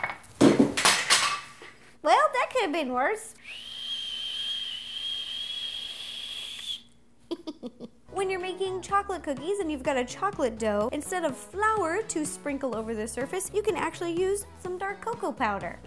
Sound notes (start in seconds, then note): 3.4 whistles; 7.3 evil snicker